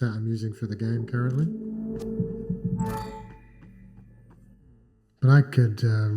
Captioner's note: electronic tones